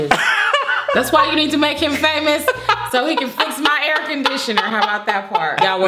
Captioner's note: laughing; still laughing